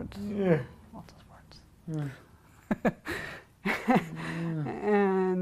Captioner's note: laughing